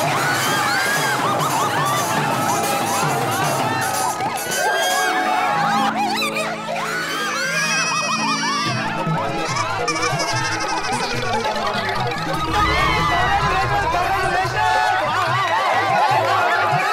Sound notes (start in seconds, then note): 0.2 cheering; 4.4 cheering; 7.2 cheering; 9.7 comical music plays